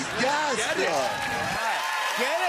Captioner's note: cheers and applause